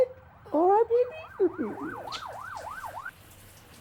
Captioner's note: sirens wailing; water running